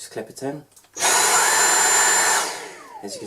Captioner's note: sound of the vacuum on